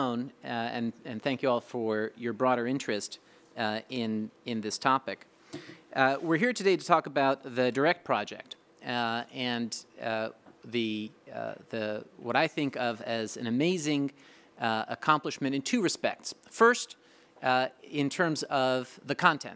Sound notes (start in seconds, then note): none